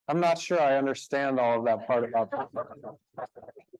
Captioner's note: speaking faintly